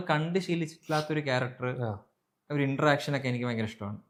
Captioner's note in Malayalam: ചീറ്റുന്നു